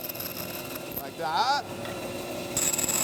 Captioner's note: wood buzzes